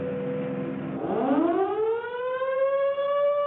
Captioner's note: siren wails